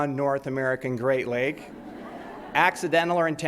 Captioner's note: audience laughs